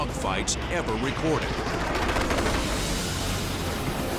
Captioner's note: gunshots